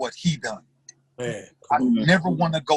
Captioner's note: mumbles affirmation